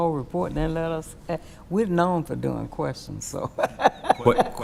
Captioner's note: laughing